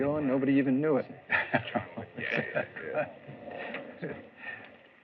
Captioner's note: chuckles